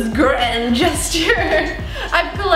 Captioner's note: laughs